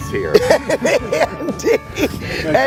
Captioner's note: laughing